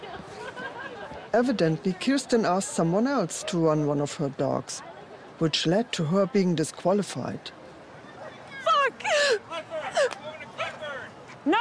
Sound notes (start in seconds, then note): 8.6 cries; 9.3 man Yelling